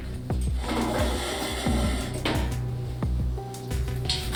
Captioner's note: metallic chair on floor